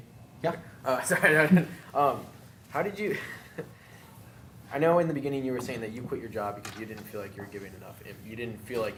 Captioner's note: laughing